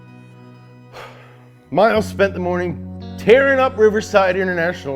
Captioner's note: sighs